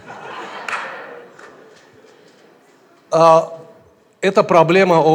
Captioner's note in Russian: смех в зале